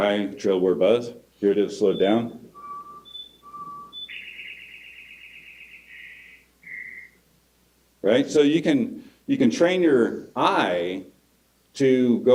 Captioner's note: bird song